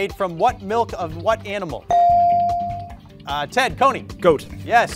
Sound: bell ringing

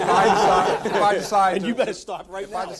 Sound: all laughing

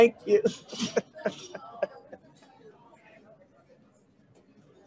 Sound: laughs

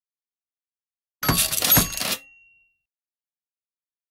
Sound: sound of typewriter

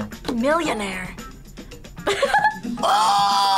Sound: laughs

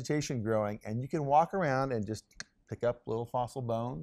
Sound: snaps

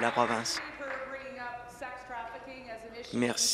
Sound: applause

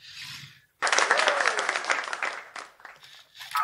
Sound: applause

